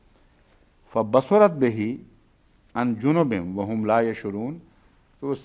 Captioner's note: Arabic